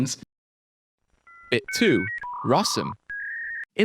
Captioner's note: voiceover